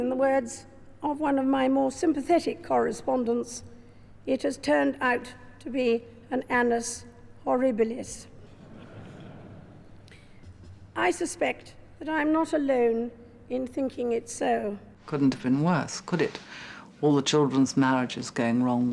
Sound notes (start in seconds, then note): 8.5 audience laughing